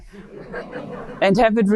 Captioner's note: audience laughing